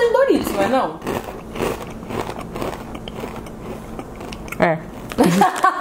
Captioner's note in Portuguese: mastigando